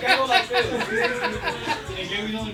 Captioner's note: group laughs